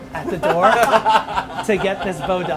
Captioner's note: laughing